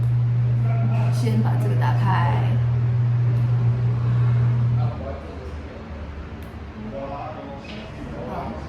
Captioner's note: power on